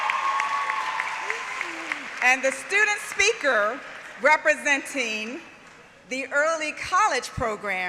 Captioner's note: applause